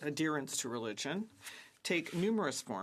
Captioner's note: speaking French